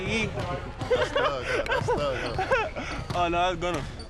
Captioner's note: laughing